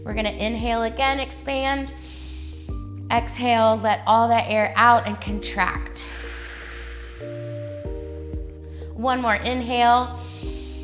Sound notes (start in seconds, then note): 2.0 inhales; 6.0 exhales